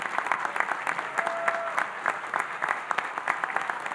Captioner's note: audience applauding